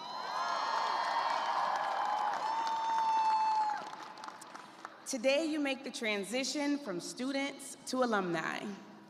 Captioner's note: cheers and applause